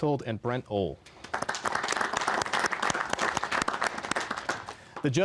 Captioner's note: applause